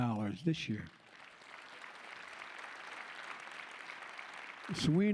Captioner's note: applause